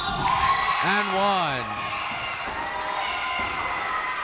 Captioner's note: cheering